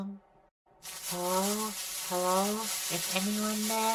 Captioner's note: radio static